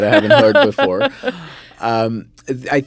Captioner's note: laughs